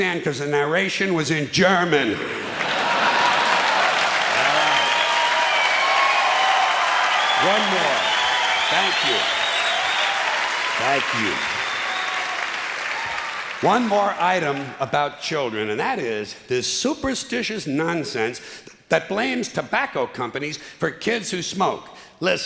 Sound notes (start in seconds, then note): 4.7 clapping and cheering